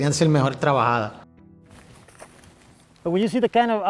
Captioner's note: walking on leaves